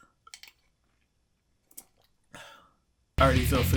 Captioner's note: sipping and blowing air